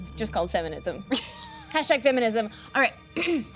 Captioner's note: laughing